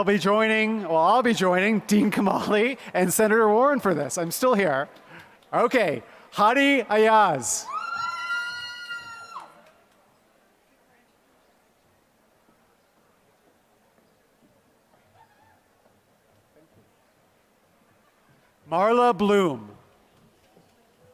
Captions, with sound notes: I'll be joining Dean Kamali and Senator Warren for this, I'm still here. Hadi Ayaz, [APPLAUSE] Marla Bloom,